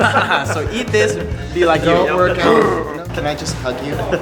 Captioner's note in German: lacht